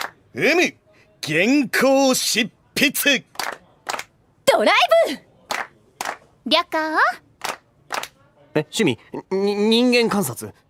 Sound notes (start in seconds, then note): 3.3 clap clap; 6.0 clap clap; 7.8 clap clap